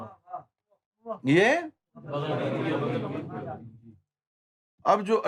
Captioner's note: audience repeats